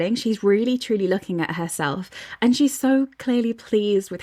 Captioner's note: none